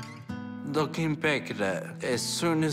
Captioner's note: none